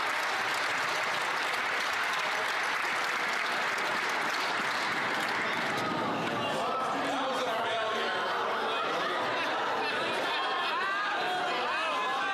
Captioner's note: some Applause